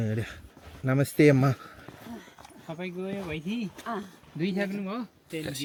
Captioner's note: speaking Nepali